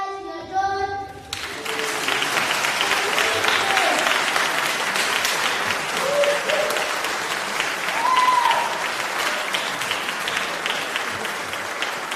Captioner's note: applause